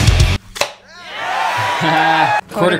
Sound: hard rock music; lid popping; audience cheering; laughing

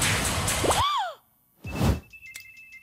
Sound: gasps

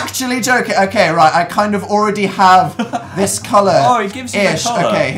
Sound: laughs

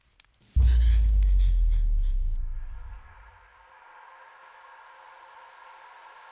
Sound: dark foreboding music; Brigit gasps

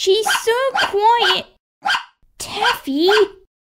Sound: bark! Bark! Bark!

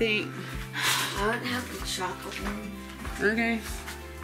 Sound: sighs

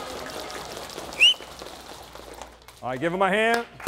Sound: coach whistling

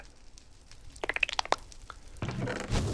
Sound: chirps and pops

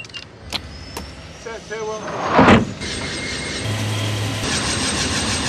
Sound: aircraft engine starting

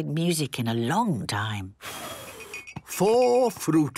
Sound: blows

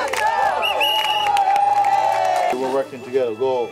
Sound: sound of the whistle

